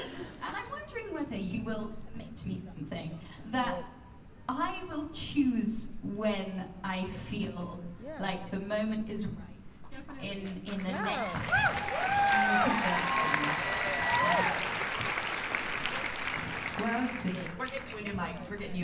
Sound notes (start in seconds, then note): 10.8 cheers and applause